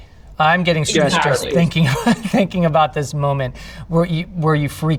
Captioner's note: laughing